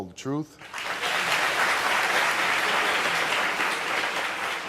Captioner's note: audience applauding